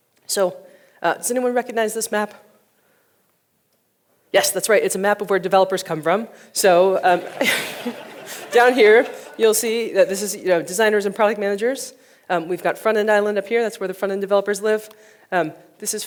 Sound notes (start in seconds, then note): 7.0 audience laughing